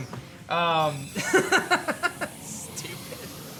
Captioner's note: laughs